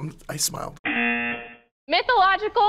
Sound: buzzer

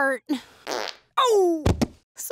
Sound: farts

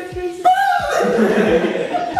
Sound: scream; laugh

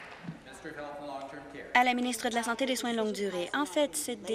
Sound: applause

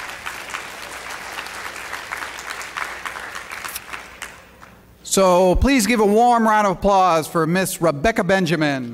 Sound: applause

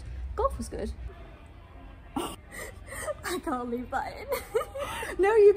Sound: laughing; laughter

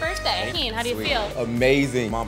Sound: noisemaker buzzes

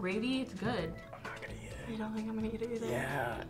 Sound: whispers

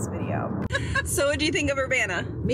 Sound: mom laughing

